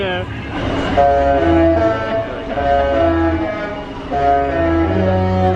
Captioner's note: ship's horn playing a tune